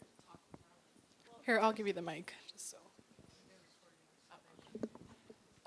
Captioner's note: voiceover